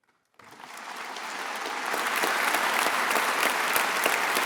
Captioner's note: attendees applauding